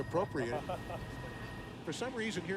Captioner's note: laughs